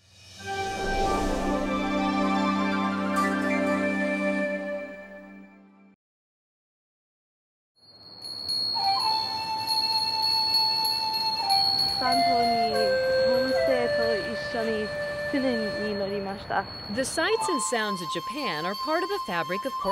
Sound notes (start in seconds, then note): 8.1 bell ringing; 14.0 Speaking Japanese